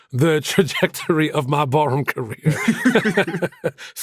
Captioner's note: laughs